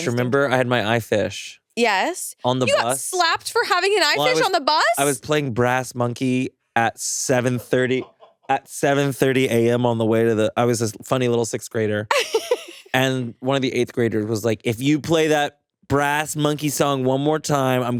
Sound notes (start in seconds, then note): 12.1 chuckles